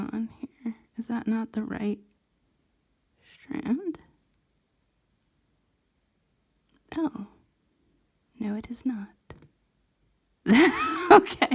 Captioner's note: laughs